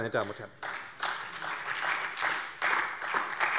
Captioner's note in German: Beifall SPD, Freie Demokraten und DIE LINKE